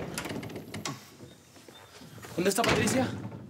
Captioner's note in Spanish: Sonido al abrir la puerta